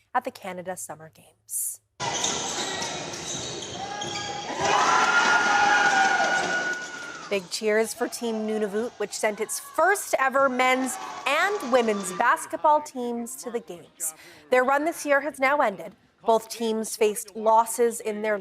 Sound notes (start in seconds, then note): 10.6 cheers and applause